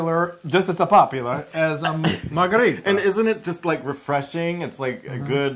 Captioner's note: laugh